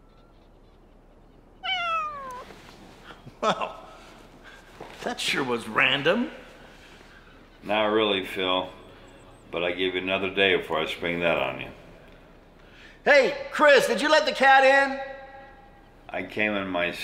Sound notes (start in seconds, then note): 1.2 Duffy meowing